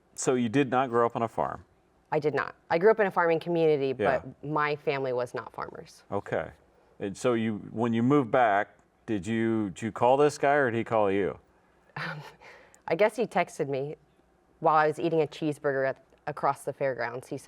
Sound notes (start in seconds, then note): 12.0 chuckles